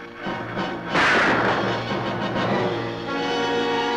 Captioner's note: gun firing